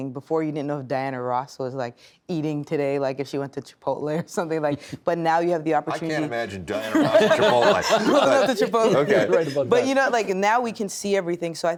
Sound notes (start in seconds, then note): 6.9 all laughing